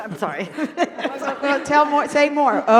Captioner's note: laughter and talkover